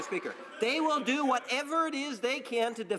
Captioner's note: some Applause